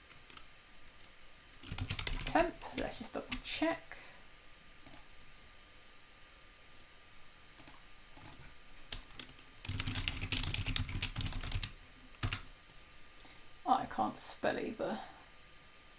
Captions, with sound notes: Let's just double check. (mouse clicking) (keys tapping) I can't spell either.